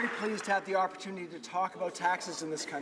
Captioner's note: some Applause